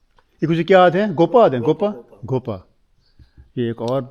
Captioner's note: speaking Saraiki